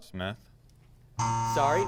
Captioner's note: buzz